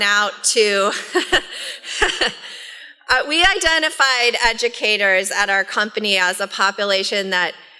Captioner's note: laughs